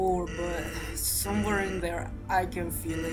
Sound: none

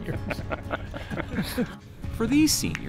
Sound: laugh

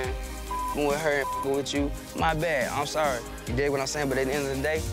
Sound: beep

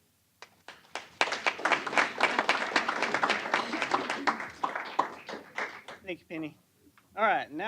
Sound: applause

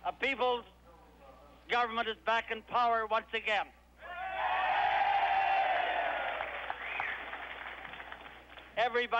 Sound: cheers

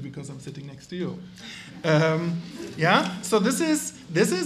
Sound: audience laughs

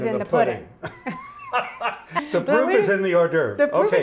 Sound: both laughing

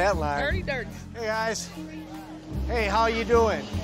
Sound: people chattering

